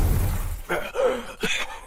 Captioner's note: coughs